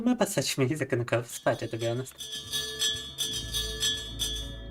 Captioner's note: speaking in Russian; bell ringing